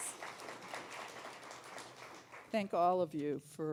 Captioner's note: applause